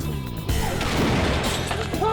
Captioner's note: flashbang detonating